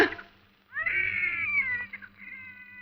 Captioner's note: baby crying